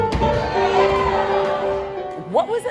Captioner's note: cheering